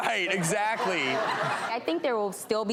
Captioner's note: crowd laughing